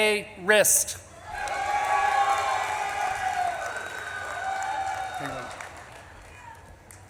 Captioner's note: audience claps and cheers